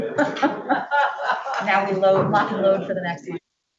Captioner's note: laughs